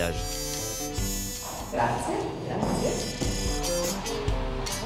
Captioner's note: in Italian